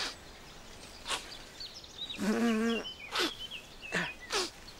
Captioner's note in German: schnüffelt